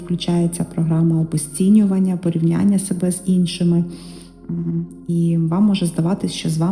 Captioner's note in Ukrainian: сопіння